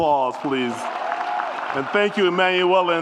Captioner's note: audience applauds and cheers